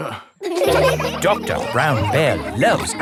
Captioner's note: all laughing